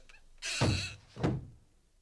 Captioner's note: SFX: footsteps followed by door creaking; SFX: door closes